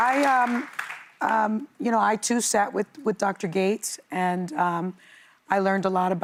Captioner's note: applause